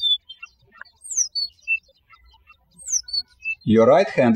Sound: birds chirping

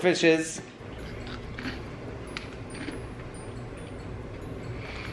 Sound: crunching noise

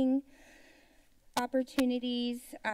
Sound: inhales

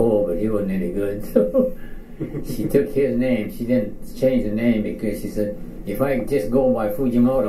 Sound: chuckles

